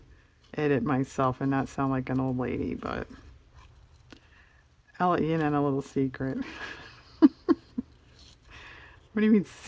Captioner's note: laughs